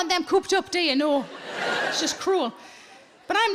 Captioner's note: audience laughing